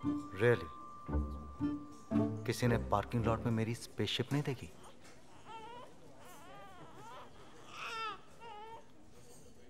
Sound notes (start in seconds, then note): 4.7 Baby crying at a distance